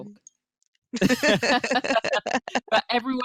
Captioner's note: laughing